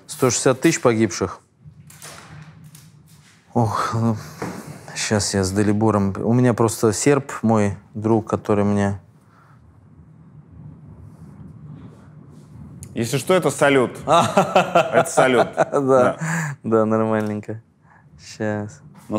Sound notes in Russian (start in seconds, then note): 14.0 смеётся